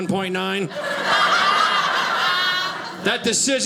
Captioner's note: audience laughing